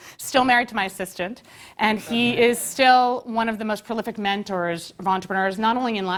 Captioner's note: laugh